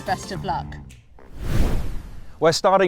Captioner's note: air whooshes